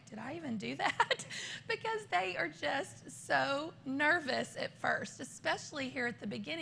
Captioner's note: laughter